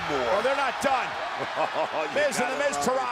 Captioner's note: laugh